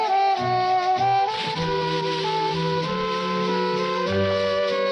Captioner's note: water splashes